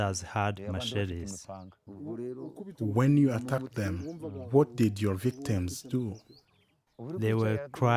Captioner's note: through translator